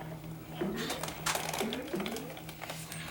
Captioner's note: boinging continues